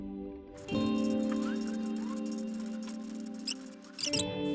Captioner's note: gentle music; squeaking